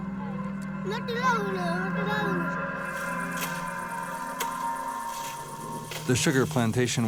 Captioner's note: child speaking in foreign language